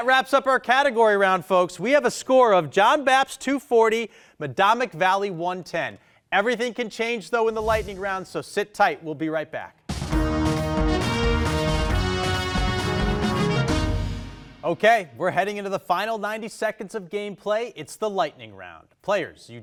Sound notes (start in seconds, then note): 7.4 text whooshing; 9.9 upbeat music